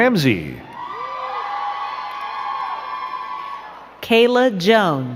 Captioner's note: crowd cheering and clapping